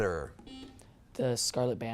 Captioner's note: buzzer beeps